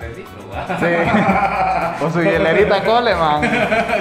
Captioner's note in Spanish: Risas